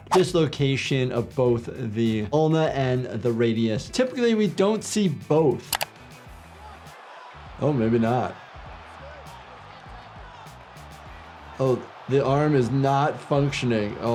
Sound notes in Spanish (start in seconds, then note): 6.8 la audiencia aplaude